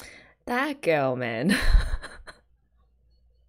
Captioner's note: laughs